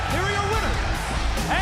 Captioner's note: bell ringing